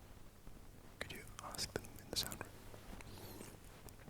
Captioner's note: whispering instructions